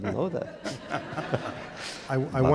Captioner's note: laughter